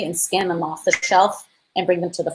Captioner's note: beep